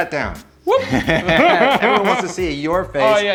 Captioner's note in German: lachen